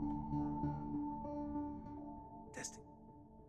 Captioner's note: recorder beeps